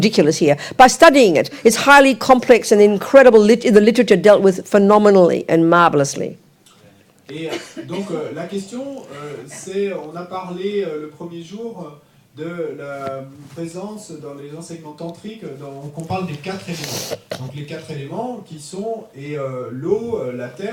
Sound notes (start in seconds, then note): 6.2 audience member speaks in French